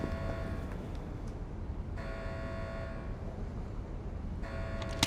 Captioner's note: alarm blaring